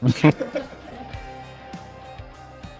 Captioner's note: laughter